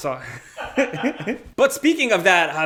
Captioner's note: laughs